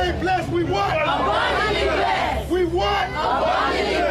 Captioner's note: crowd shouting